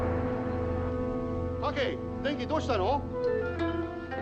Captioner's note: speaking japanese